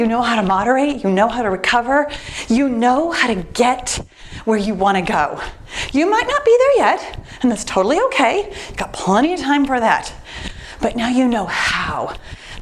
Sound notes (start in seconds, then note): none